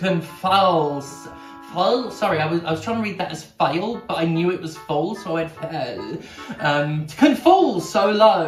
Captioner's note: mouth noises